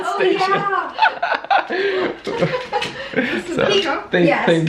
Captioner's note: laughter